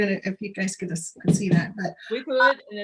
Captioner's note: picture thuds